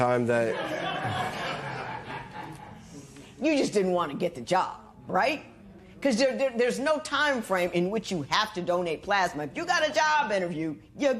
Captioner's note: laughter